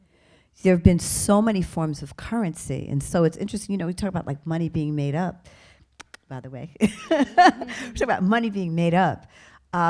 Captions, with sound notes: There've been so many forms of currency. And so it's interesting, you know we talk about money being made up, (clicks tongue) by the way. (laughs) Talk about money being made up.